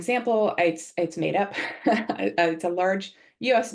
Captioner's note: laughs